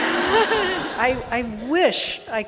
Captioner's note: audience laughing